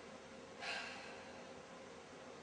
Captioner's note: sigh